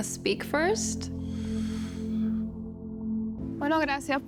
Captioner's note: soft sighing; speaks Spanish